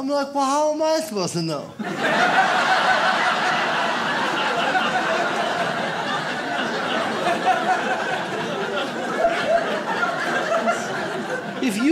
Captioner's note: audience laughs